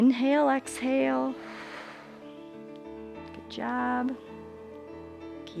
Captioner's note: exhales; inhales